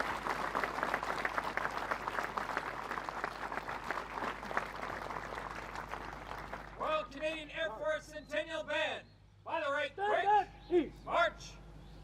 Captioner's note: applause